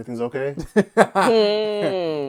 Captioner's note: laughter